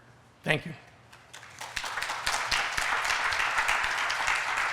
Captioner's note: applause